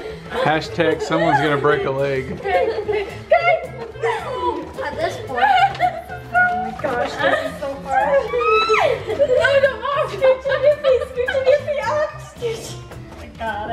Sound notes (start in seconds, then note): 3.5 girls exclaim; 8.8 girls squealing and laughing